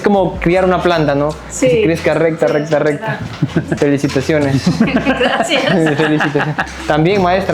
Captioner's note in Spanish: risas